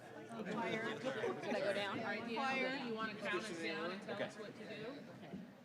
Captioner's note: laughter